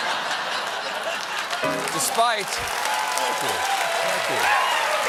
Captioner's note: laughter; piano riff